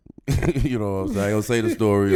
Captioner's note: laughs